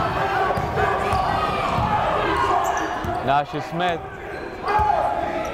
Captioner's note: yelling